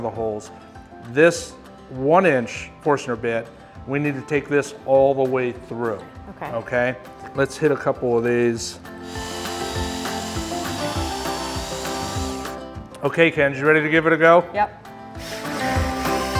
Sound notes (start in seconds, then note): 9.0 drill whirring; 10.2 upbeat music